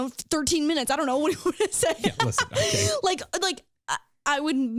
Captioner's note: laughing